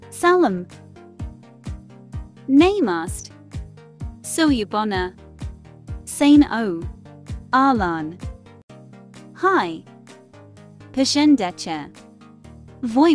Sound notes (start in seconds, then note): 2.1 Hindi; 7.4 Arabic